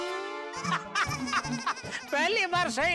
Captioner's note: laughing